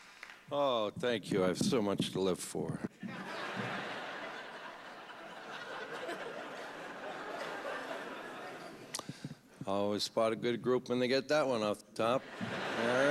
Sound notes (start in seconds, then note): 3.0 laughter